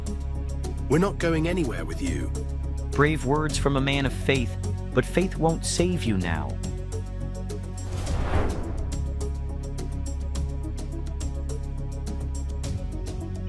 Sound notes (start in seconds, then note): 6.5 suspenseful music continues; 7.8 transition whooshing